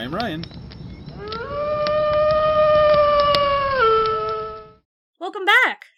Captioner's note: wolf howl